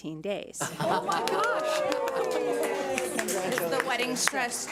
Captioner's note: board cheers